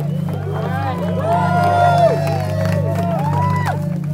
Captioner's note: crowd cheers